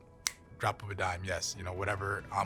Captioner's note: snaps fingers